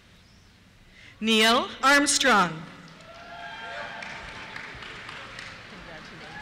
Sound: cheers

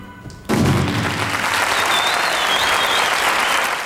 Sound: audience applauds

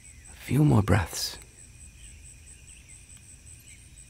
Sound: birds chirping

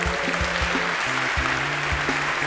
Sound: applause

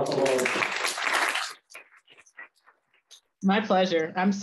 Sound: applause

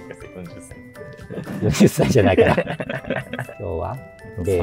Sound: laughing

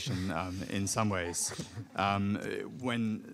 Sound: audience chuckling

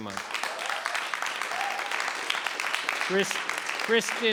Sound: audience applauds

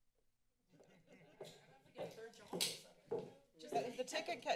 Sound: silence; footsteps

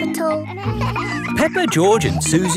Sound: kids laughing

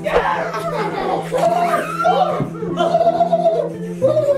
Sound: screams; laughing; green rainbow ghost growling

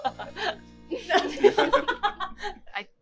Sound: laughs

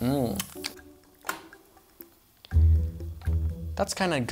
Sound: waffle maker clicks

